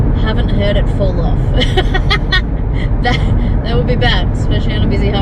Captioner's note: laughs